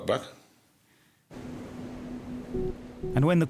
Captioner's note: boat droning; gentle music